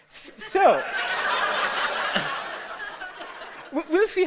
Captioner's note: audience laughter